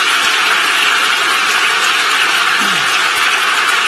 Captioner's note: applause